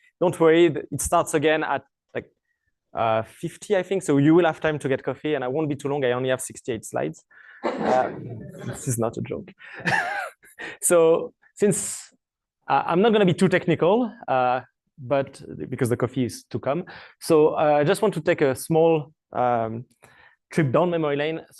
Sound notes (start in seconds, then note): 7.2 laughter; 9.5 laughs